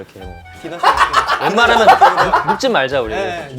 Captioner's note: dying laughing